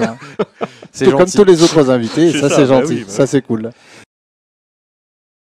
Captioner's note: laughs